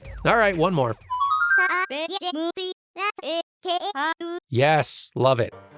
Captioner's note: Animal Crossing dialog sounds